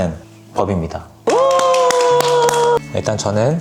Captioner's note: applause